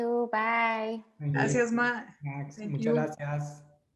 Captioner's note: in foreign language; in foreign language